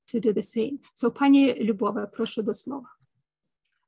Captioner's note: speaking ukrainian